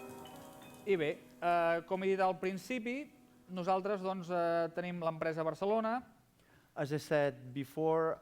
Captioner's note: non-english speech